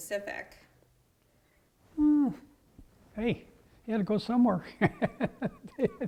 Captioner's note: laugh